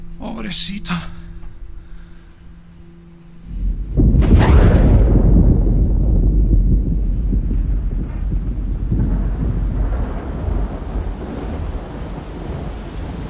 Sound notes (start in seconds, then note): 3.8 thunderclap; 8.8 heavy rainfall